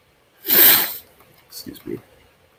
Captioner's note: sniffs